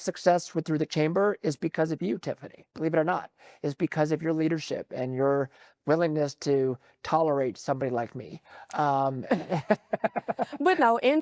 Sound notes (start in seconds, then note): 9.2 laughs